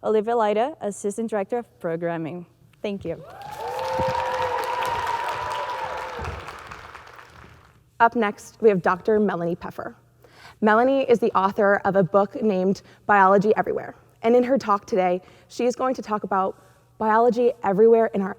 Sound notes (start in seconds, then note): 3.2 audience cheering; 3.2 audience clapping